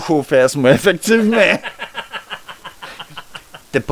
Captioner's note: laugh